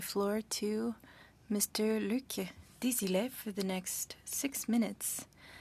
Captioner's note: speaking French